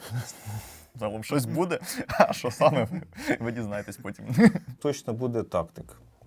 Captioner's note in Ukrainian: сміх